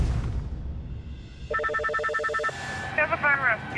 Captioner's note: line rings